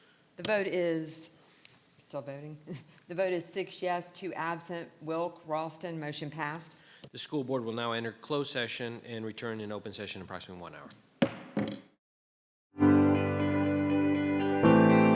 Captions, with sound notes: - The vote is, still voting. The vote is six yes, two absent, Wilk, Raulston, motion passed. - The school board will now enter closed session and return in open session approximately one hour. (gavel bangs) (mellow music)